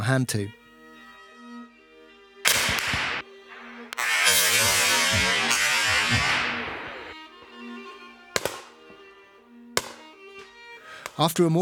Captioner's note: gunfire